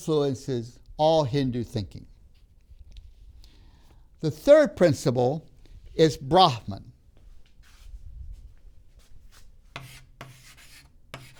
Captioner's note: chalk sounds on board